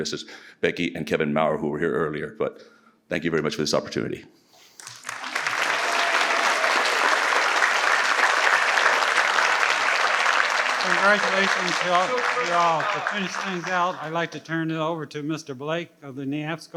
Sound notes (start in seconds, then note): 5.6 participants applaud